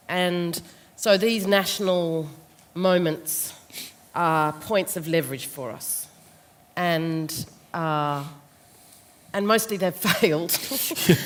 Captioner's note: laughs